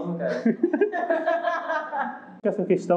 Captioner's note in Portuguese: risos